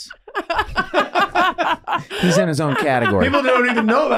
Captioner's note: group laughing